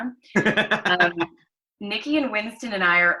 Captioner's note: laughter